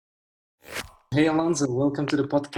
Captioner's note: logo zips